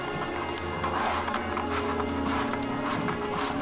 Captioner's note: scraping noise